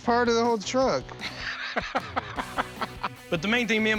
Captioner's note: laughing